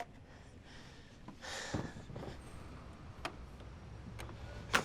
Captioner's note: Kate sighs